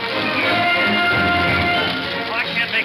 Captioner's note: fire crackling